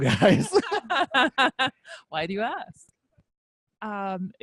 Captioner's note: laughs